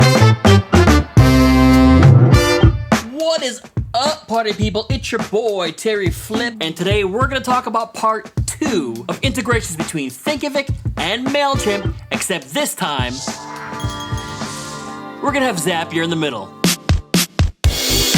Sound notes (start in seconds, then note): 13.1 magical sounds; 16.6 super dope Modern Funk break: ♪♪♪ 120bpm